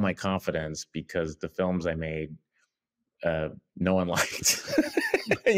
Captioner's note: laughs